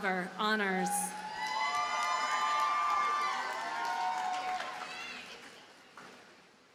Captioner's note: audience cheers and applauds